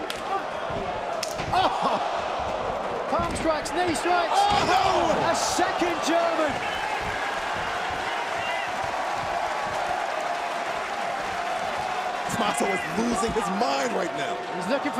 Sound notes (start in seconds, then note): 7.7 crowd cheering